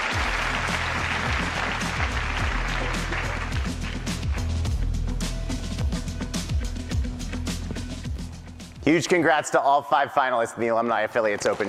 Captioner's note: applause